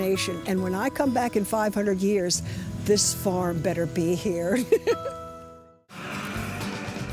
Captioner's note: laughs